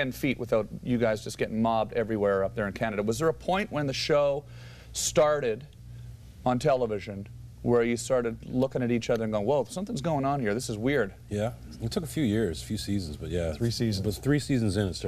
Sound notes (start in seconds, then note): none